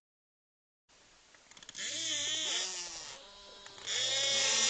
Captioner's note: whales wailing